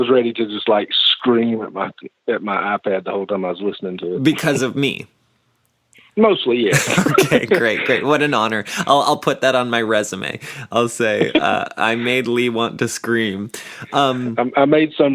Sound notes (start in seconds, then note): 6.7 laughs